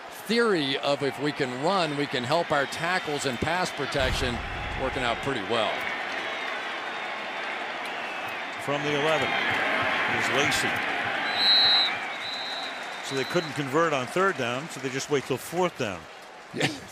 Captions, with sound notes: And this theory of if we can run, we can help our tackles and pass protection working out pretty well. From the 11, it is Lacy. [whistle blows] So they couldn't convert on third down so they just wait till fourth down.